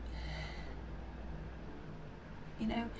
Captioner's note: Marianne sighs deeply